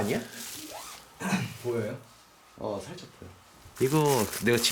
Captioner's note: coughing